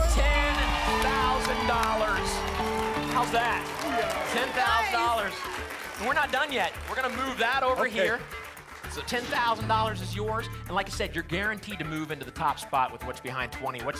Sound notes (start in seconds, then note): 1.9 applause and cheering